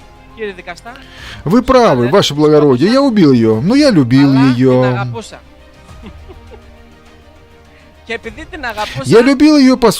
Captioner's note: laughs